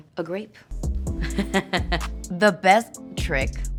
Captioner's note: laughs